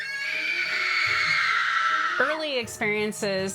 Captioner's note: woman screaming